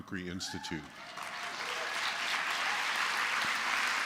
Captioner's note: applause